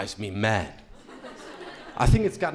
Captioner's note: crowd laughing